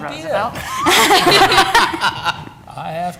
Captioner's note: laughter